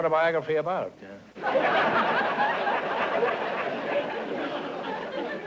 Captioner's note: laughter